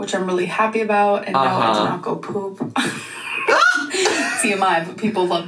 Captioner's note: laughs